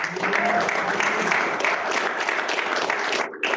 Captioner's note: applause